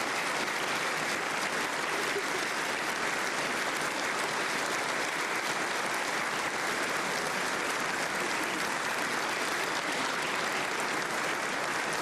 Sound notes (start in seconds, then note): 2.5 applause